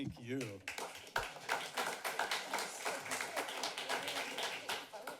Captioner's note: applause